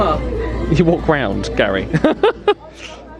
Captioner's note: laughs